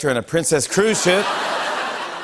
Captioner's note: laughter